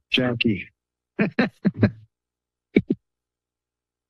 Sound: laughter

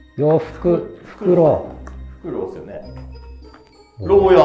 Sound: owl

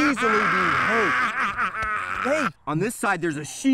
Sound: laughing

